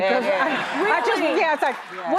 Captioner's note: audience laughing